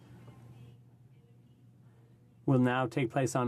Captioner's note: speaking french